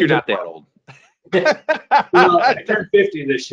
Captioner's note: laughs